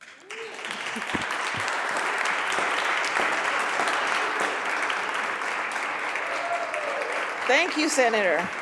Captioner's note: applause